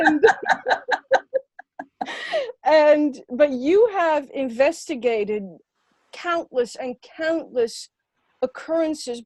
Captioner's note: laughter